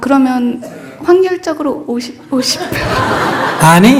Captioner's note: questioner and Audience Laughter